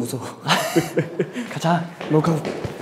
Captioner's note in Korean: 웃음